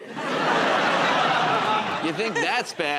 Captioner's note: laughter